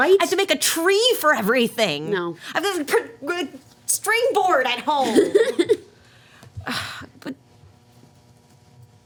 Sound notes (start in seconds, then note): 5.0 laughing